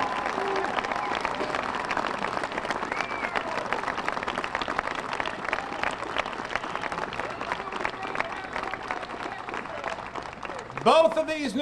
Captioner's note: applause